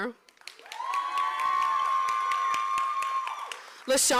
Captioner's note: applause